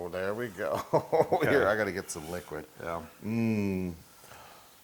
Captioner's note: laugh